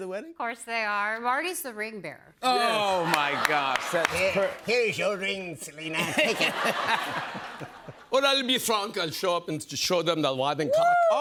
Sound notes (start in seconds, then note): 5.9 laughter; 8.0 foreign accent